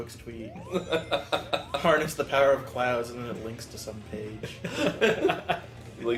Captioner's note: chuckles; laugh